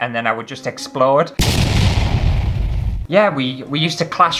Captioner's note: explosion Sound